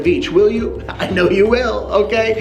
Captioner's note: laughs